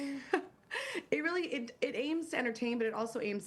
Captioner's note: laughter